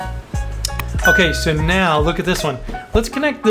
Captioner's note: bell dings